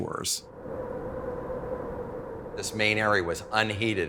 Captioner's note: wind blowing